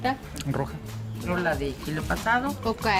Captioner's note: speaks Spanish